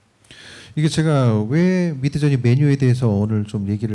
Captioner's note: speaking korean